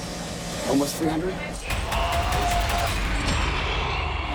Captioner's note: moaning, growling